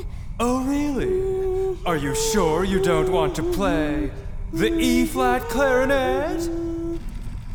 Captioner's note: Harmon hums a familiar tune